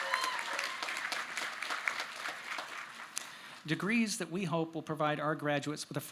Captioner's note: applause